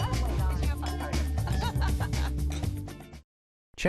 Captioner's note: laughs